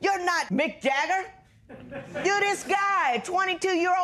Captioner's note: laughter